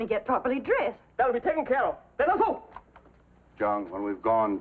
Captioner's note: shouts command